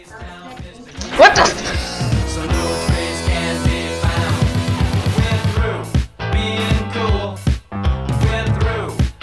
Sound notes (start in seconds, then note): 0.9 chucles